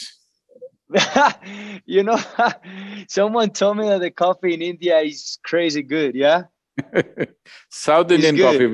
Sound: laughs

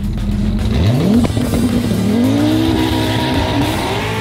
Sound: car engine revving

